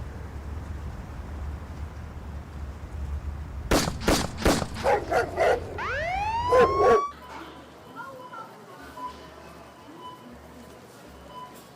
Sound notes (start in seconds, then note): 3.7 gunshots; 4.8 dog barking; 5.3 sirens whirring; 6.9 store sounds